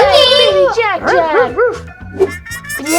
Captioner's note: dog barking